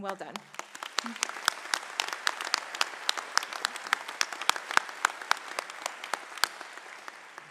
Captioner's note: applause